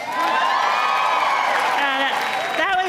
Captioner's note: audience cheering